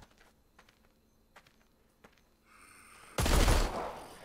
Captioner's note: stunned silence